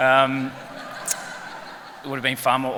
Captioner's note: laughter